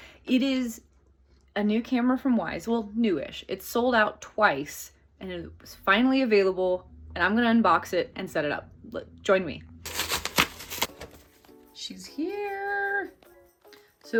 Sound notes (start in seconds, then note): 9.8 package rustling